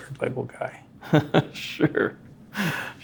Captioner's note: laughing